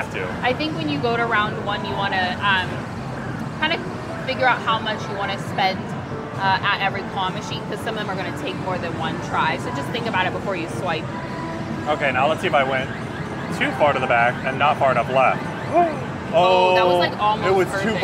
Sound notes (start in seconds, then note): 15.7 exclaiming in disappointment